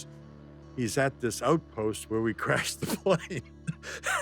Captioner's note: laughs